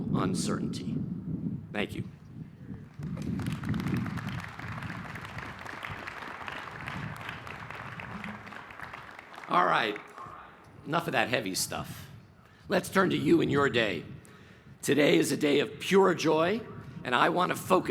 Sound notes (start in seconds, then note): 7.3 applause